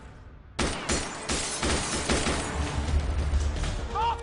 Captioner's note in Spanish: Disparos